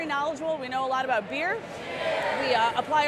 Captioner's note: crowd cheers